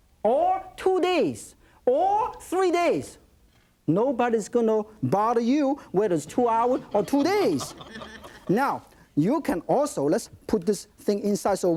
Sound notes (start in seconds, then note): 6.7 light audience laughter